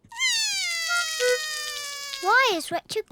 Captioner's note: cries